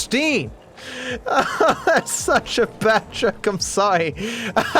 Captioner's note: laughing; laughs